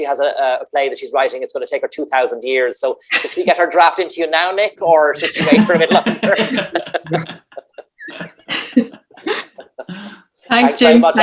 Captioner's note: laughter